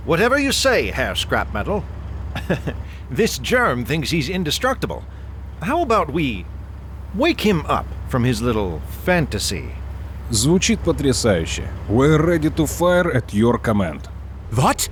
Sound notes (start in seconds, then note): 10.4 some kind of Russian